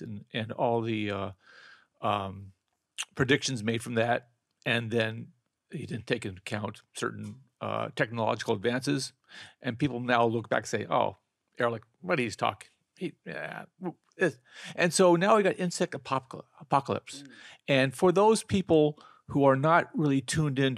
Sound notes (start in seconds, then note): 13.0 murmurs